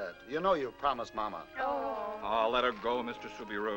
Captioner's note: girls groaning